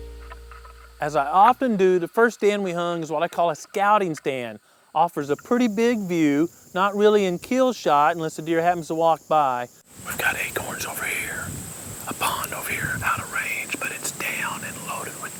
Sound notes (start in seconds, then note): 9.1 whispering